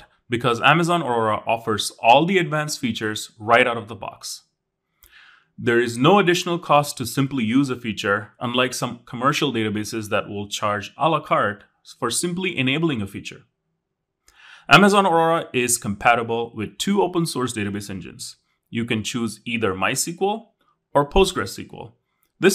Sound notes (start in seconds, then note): none